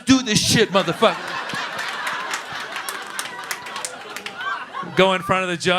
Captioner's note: laughter